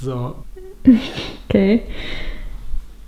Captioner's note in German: lacht